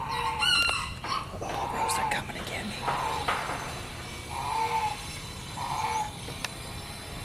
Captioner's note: whispers